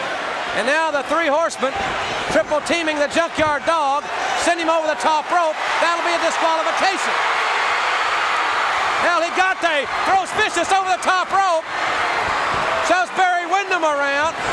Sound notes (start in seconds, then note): 7.6 audience cheering